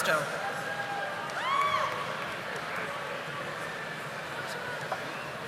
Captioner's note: audience applauding